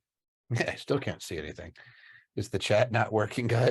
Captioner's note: chuckles